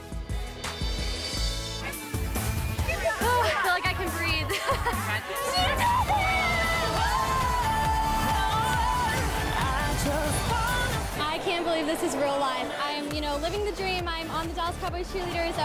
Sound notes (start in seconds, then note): 5.4 screaming; 7.3 cheerful music